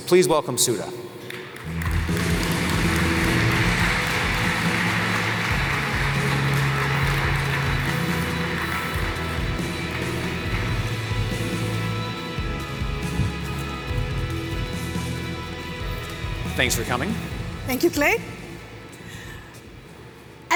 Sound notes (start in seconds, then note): 0.9 applause